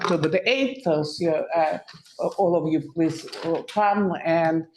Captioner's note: audio blurs